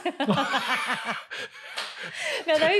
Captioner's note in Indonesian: tertawa